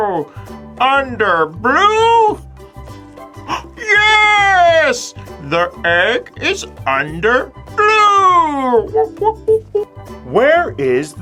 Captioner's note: monkey noises